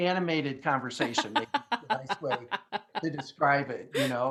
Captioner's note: laughing